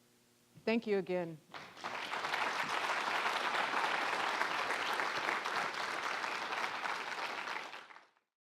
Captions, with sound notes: Thank you again. (applause)